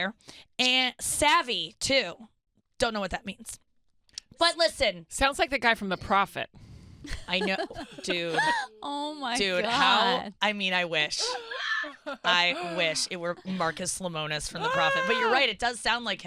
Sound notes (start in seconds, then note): 7.1 laughs